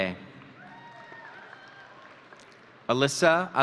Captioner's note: audience cheering